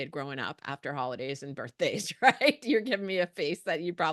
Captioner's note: chuckles